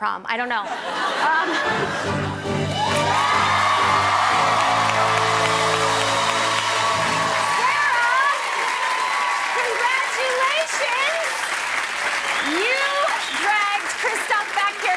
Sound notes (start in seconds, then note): 0.6 laughter; 2.9 cheers and applause